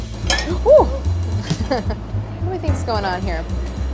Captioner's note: pan clatters; laughs